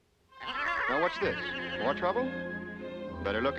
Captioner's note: braying